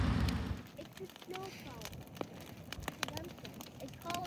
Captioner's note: fire crackling; family chatting indistinctly